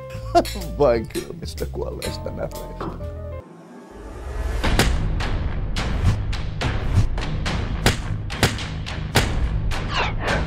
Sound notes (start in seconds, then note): 4.4 fighting sounds